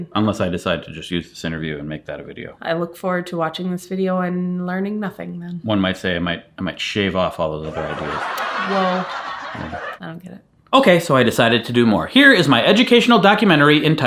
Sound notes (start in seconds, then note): 7.6 audience laughing